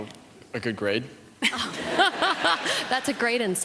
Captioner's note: laughter